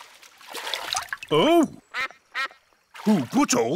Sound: quacks

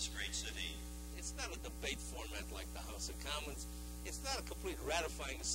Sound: voice-over

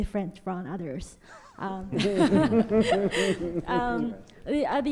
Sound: audience laughter

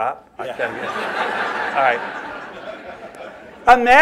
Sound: laughter

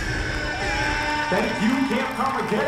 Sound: crowd cheering

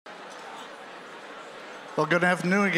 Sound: general chatter

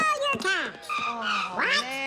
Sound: screech!

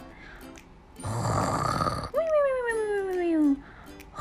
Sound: snoring

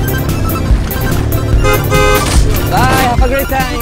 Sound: beep beep

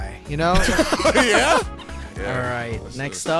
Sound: group laughing

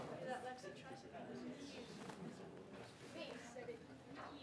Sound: people mumbling

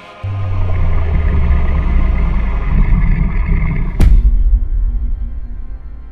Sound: monster grunt

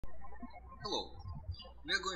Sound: birds chirping

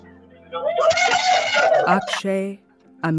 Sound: cheering

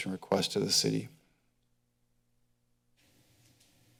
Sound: silence; rustling sound

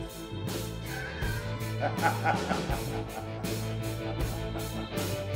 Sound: laughing

